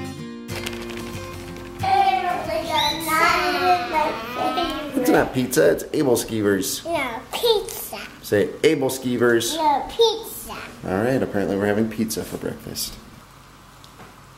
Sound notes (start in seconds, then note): 1.8 kids talking